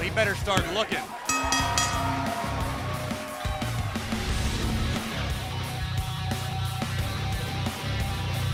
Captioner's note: bell rings